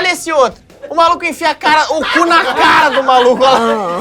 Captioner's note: risos